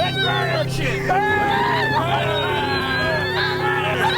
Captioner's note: cheering